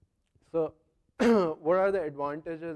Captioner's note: cough